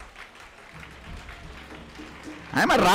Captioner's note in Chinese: 鼓掌